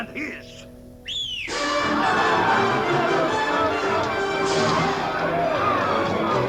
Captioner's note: whistling; screaming and scuffling